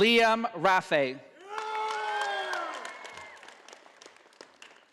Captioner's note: audience applauding